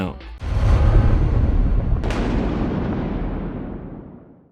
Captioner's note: thunder